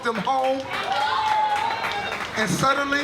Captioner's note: audience cheers